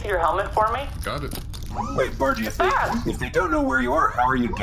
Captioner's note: gross food squelching sounds